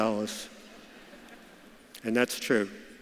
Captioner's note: audience laughs